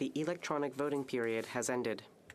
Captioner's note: speaking French